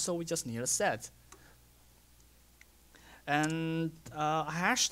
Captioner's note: pause